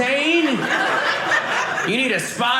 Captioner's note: audience laughing